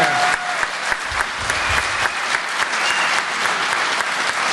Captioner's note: applause